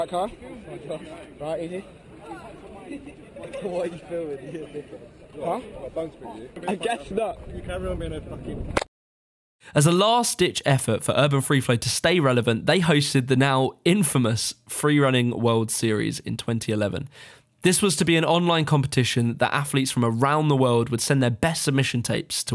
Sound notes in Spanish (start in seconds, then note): 2.8 risas